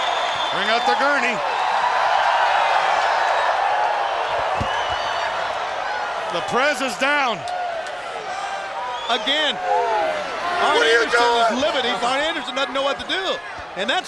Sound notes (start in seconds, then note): 2.2 crowd cheering; 4.6 Ric thudding on mat